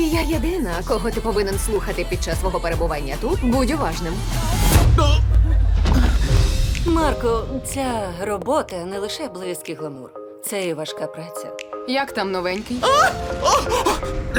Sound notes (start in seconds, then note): 4.8 thud; 12.8 Marco yelping